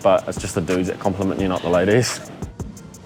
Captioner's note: laughs